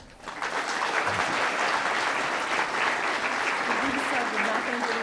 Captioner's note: audience applauding